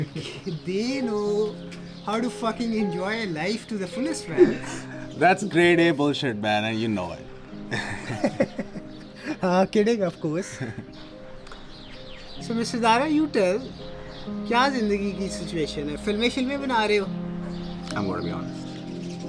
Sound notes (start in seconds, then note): 7.6 giggles